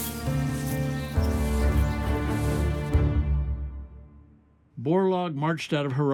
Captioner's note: birds twittering